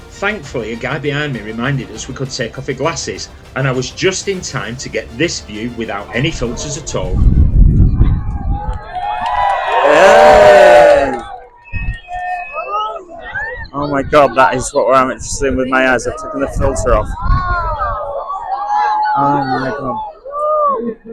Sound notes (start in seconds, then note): 7.9 cheering; 8.5 screaming